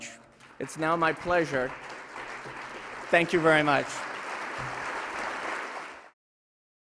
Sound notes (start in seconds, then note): 4.2 applause